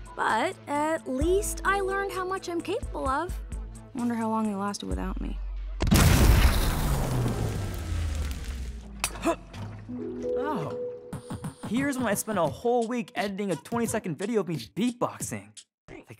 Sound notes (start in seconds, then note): 5.8 explosion